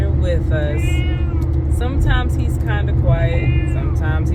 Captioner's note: meow; meow